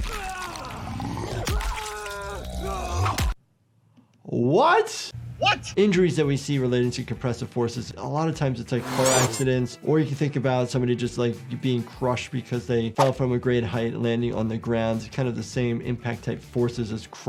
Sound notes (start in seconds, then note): 0.0 fighter screams